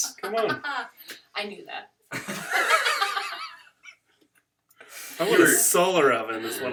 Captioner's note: laughter